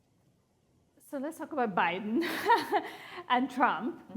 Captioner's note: chuckles